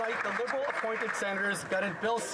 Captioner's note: applause